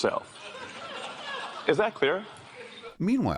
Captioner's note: laughter